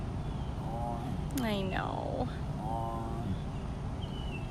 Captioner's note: groan